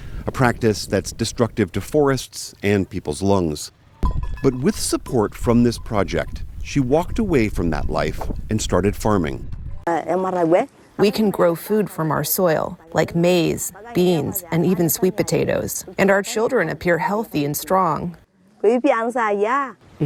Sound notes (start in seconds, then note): 10.5 through translator